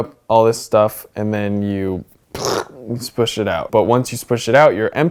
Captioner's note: exclaims